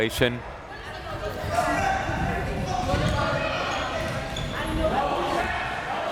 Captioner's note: crowd members shouting